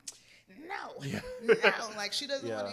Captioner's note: laughs